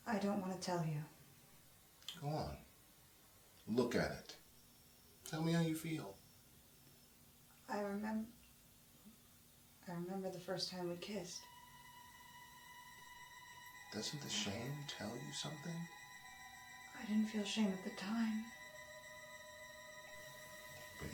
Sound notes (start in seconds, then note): none